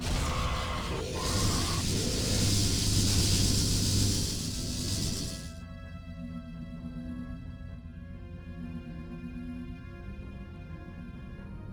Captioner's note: beeps